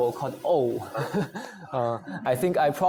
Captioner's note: chuckles